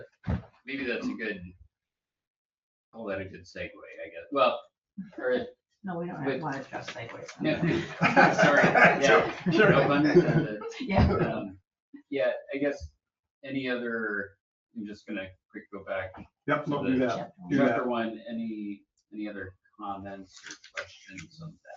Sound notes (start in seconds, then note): 7.3 group laughing; 8.4 overlapping chatter; 16.5 overlapping chatter